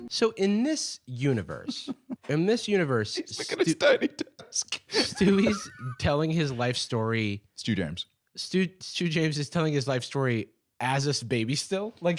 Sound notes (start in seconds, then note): 4.8 laughing